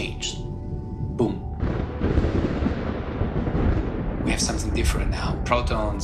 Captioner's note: soundbite of explosion